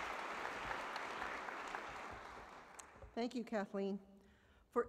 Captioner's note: applause